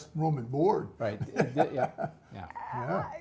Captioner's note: laugh